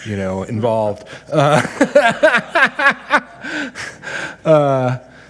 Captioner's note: group laughs